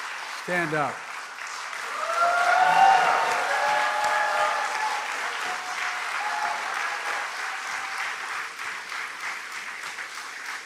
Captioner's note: cheers and applause